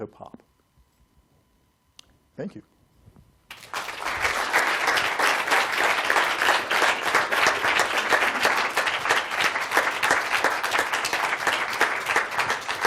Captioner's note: applause